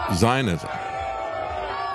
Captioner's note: crowd Cheering